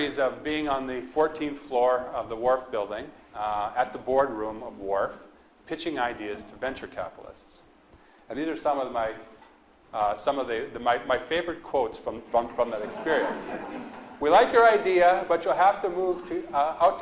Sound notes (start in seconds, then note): 12.4 audience laughs